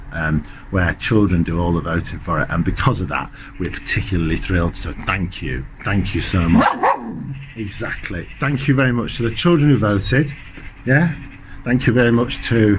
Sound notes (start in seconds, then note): 6.5 finn barks